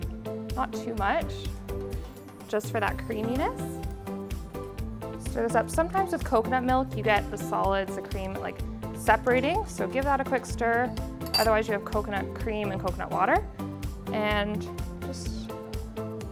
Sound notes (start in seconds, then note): 11.2 spoon clinks